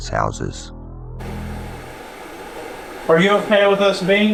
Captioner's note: static sound